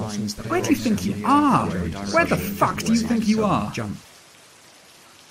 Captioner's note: above many overlapping voices